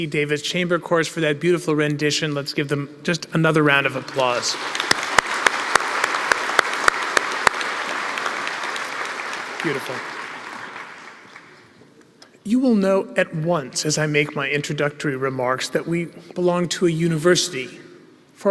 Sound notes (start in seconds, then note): 3.9 applause